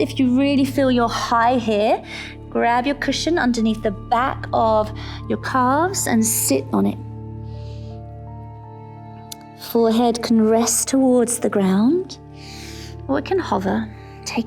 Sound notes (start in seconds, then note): 7.7 inhales; 8.6 calm music